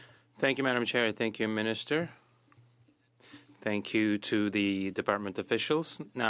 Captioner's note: speaking French